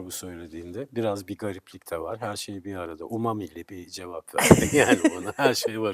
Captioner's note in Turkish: kahkaha